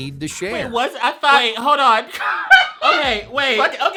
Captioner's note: laughs